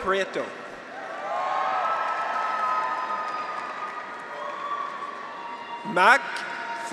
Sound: graduates cheer; audience applauds

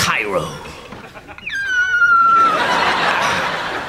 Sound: high pitched wheeze

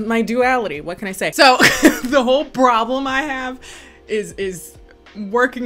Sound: laughs

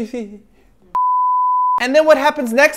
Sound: beep

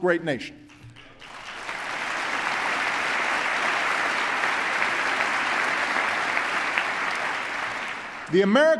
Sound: applause

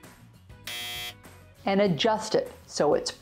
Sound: buzzer buzzing

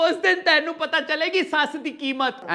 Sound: none

